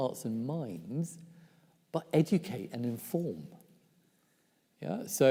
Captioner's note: none